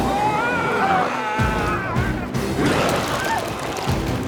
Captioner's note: intense music; biker screams